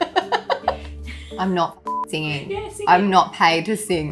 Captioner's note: laughing; beep